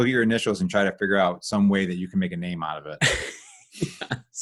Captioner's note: both laughs